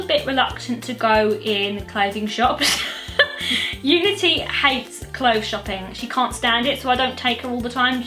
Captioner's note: laughs